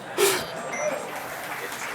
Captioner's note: beeping